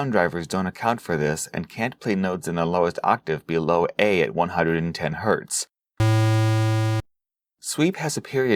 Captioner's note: hums